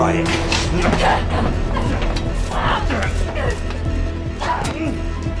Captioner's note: suspenseful music continues; both grunting